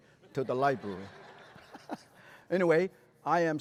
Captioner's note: laughter